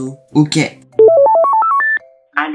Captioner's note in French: Bruit de téléphone